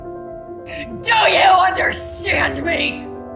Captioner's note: shouting